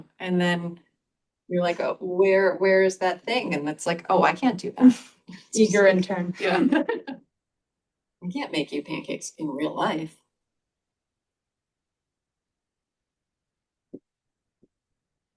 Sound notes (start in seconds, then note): 6.4 chuckles; 6.4 laughs